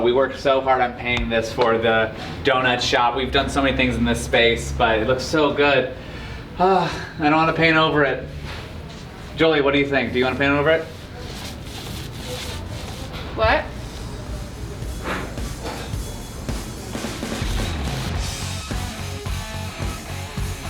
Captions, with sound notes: We worked so hard on painting this for the donut shop. We've done so many things in this space but it looks so good. (sighs) I don't want to paint over it. Joely, what do you think? Do you want to paint over it? (wet paint rolling) - What? (upbeat music)